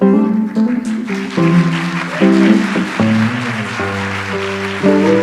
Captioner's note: audience applauds